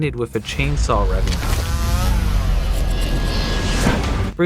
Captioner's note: chainsaw sounds